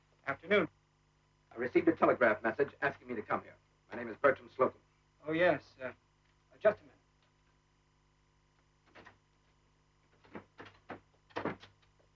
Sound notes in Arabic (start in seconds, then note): none